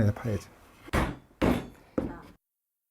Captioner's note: hammering sound